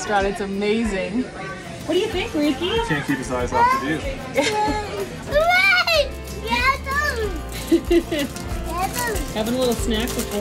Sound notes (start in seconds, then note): 5.7 babbles